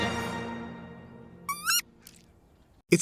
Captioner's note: animal squeaks